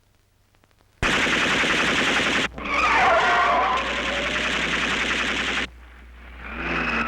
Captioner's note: weapon firing; tires screeching; car engines revving